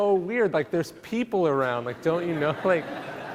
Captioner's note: laughing